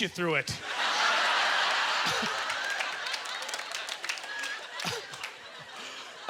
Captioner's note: audience laughter; applause